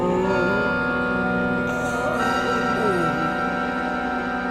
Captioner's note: more groaning and heavy breathing